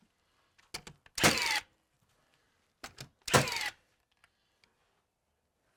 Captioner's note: nail gun thudding